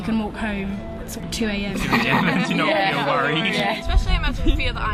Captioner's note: laughing